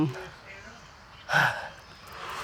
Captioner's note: birds chirping